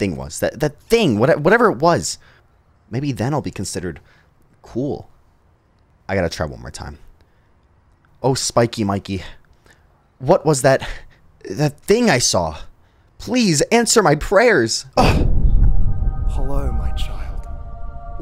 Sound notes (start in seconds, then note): 14.8 grunts; 15.1 heavenly music